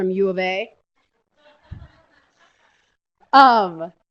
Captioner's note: laughter